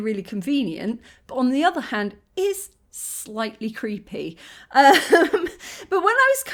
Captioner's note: laughing